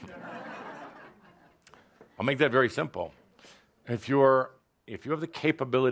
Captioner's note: laughter